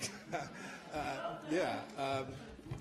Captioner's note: laughter